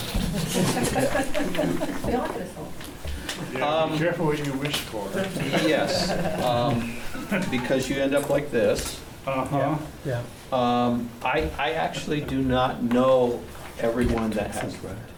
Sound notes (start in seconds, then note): 0.1 laughs; 5.2 laughs